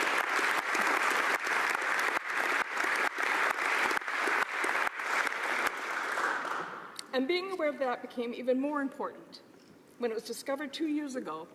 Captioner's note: applause